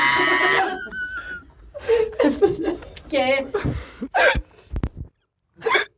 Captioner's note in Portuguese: risadas